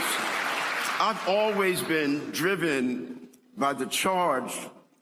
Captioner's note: applause